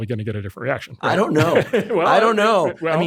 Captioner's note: laughs